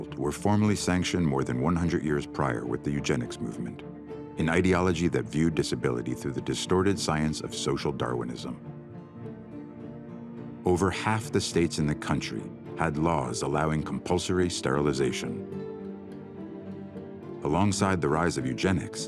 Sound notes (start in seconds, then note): none